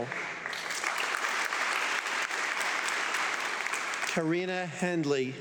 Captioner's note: audience clapping